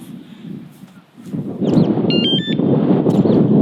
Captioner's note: arming sound